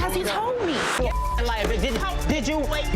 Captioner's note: beep